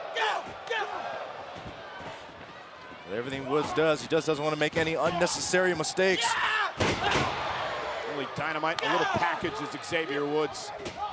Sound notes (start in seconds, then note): 6.2 Xavier screams; 6.8 Kevin thuds